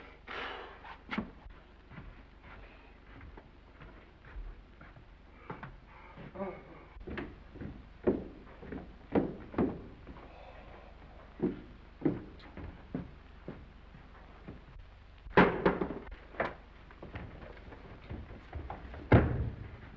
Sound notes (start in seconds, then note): 0.0 exhales; 0.8 footsteps receding; 6.3 Mr. Randall yawns; 6.8 footsteps receding; 15.3 cover thuds; 15.9 footsteps approaching